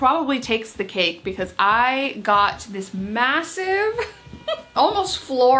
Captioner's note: laughs